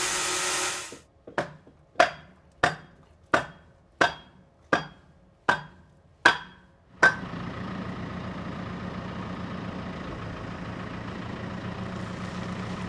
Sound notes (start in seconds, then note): 2.2 hammer clangouring; 6.8 engine rumbling